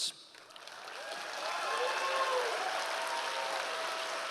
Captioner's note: audience applause